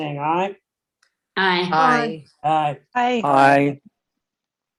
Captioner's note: multiple ayes